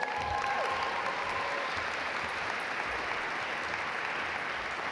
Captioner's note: audience applaud